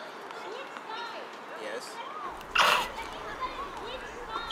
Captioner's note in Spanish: risitas